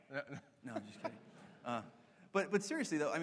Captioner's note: laughter